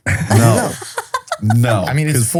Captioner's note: laughs